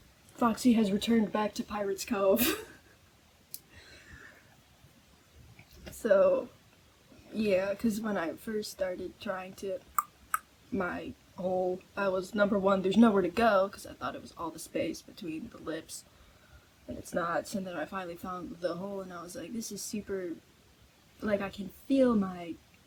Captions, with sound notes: Foxy has returned back to Pirate's Cove. So yeah cuz when i first started trying to *click click* my hole. I was, number one: There's nowhere to go! cuz i thought it was all the space between the lips. And, it's not. So then, i finally found the hole, and i was like, "This is super- like, i can feel my